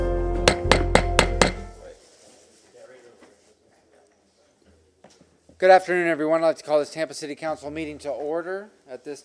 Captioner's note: sounding gavel